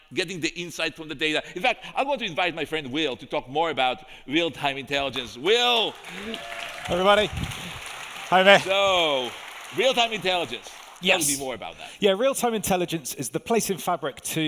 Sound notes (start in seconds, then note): 8.2 audience applauding; 8.2 audience cheering